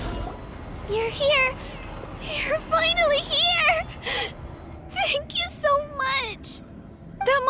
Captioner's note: sobbing